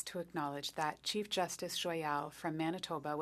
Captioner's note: speaking French